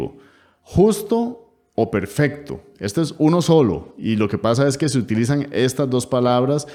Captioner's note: in spanish